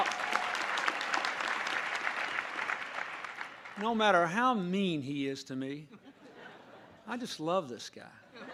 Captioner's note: applause